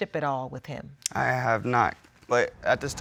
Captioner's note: clicks tongue